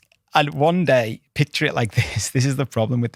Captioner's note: chuckles